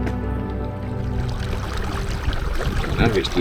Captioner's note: water lapping gently; suspenseful music continues